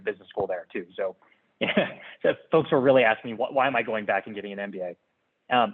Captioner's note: laugh